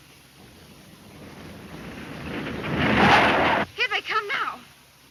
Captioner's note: vehicle engine roaring